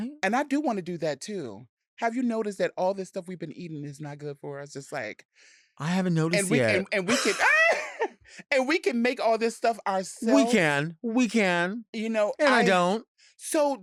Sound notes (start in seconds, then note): 7.0 laughing; 7.7 squeals